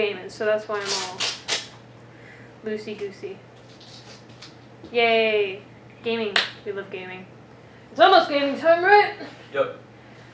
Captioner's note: claps